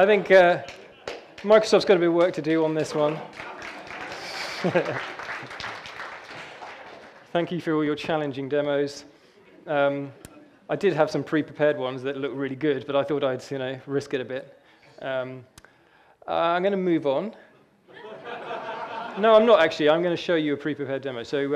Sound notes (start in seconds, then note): 3.0 audience cheers and laughter; 17.9 audience laughing